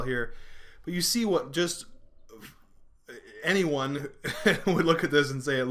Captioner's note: laughing